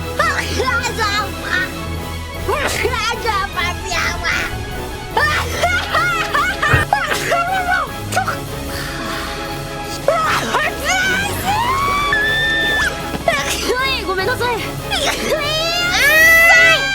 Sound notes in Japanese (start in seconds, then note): 0.2 くしゃみ; 10.0 くしゃみ